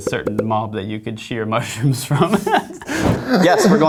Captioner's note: laughs